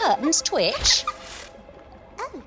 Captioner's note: Pocket giggles